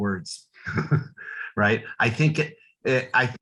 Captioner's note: chuckles